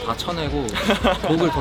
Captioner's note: laughing